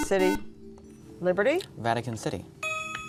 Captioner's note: ding